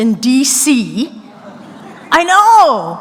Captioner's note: soft laughter